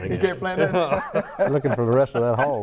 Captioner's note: laughs